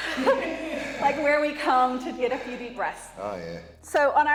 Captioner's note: laugh